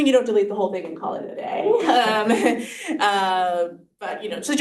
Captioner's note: chuckles